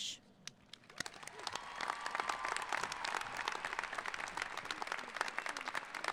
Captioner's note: applauding; cheering